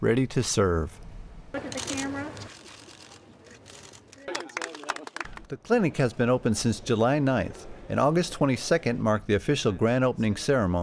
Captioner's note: applause